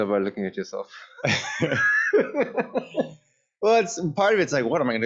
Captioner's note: laughter